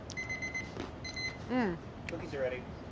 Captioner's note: timer beeping